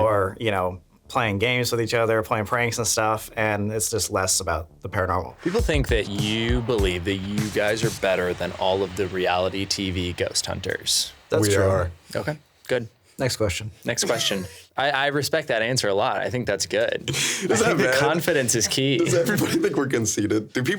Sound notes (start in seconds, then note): 14.0 laughing; 17.1 laughing